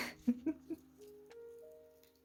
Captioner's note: chuckle